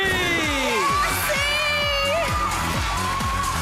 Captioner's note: cheering, applause